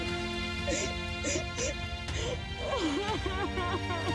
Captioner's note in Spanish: solloza; llora